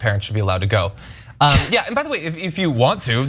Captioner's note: laugh